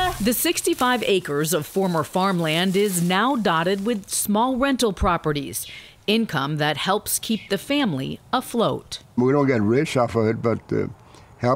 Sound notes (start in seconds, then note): 1.3 woman speaks spanish